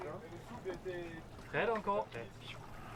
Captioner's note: crew speaking French